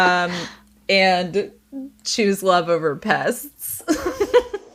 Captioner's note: laughing